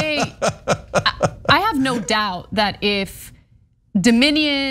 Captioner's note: laugh